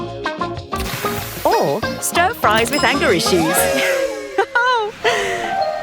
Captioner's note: cheerful laugh